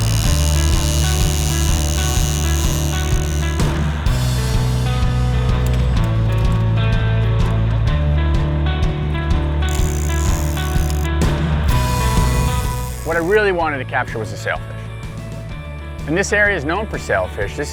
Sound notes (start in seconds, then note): 0.0 fishing line whirring; 4.0 upbeat rock music; 9.6 fishing line whirring